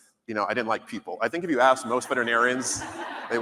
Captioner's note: laughter